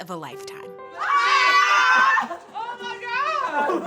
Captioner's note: loud cheering